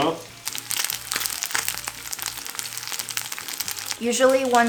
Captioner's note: salmon sizzling